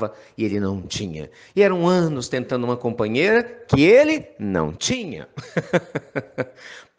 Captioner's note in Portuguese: Risos